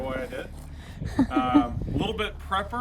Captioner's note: laughs